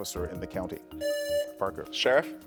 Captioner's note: buzzer buzzing